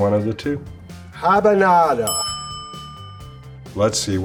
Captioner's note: bell dings